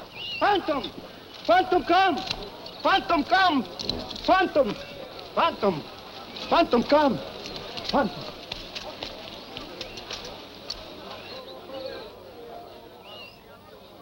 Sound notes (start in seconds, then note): 8.8 people chattering